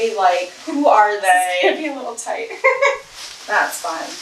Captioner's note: laughs